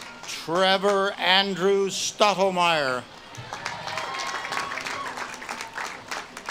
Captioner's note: audience claps and cheers